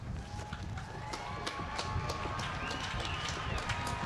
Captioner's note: applause